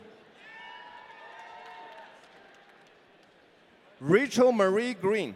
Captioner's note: audience cheering